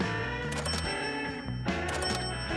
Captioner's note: alert chiming